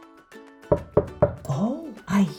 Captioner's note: door knocking